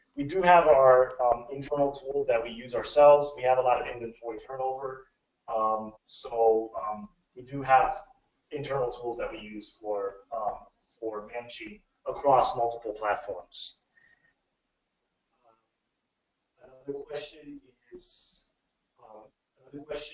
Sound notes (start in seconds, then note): 17.6 speaking away from mic